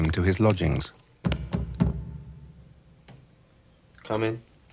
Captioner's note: knocking